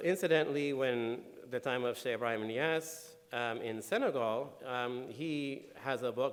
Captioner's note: speaking in foreign language